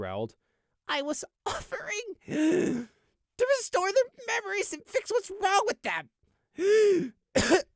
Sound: wheeze; cough

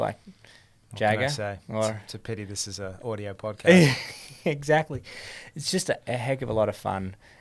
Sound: chuckles

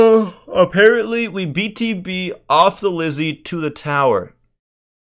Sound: yawn

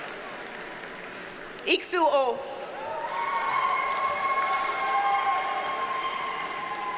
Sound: audience cheers and applauds

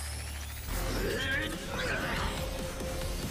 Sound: grunting; growling

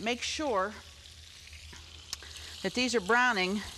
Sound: meat sizzling

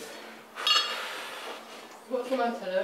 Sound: big sigh

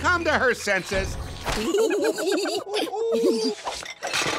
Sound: giggling; gasping

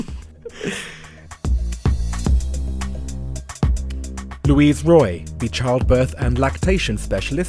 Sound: voiceover

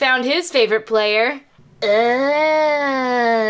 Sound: imitates Alien's voice

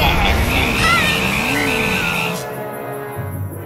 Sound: Red Helmet shrieks being electrocuted

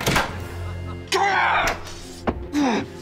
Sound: grunting

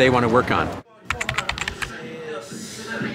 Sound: typewriter keys tap; music, ambient room noise

